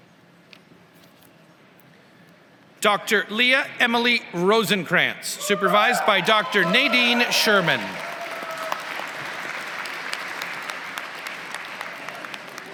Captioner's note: applause